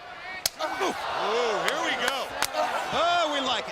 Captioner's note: crowd cheering